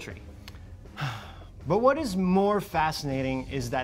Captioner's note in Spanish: suspiro